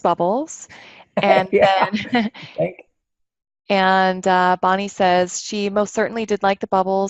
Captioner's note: laughter